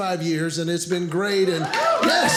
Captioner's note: audience cheering